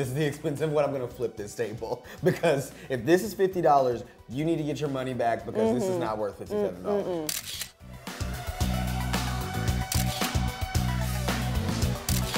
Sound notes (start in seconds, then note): 7.2 camera clicks; 7.8 funky music; 9.9 camera click; 11.0 funky music; 12.0 camera click